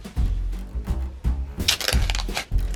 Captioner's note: plastic crinkling